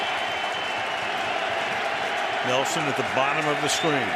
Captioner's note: cheering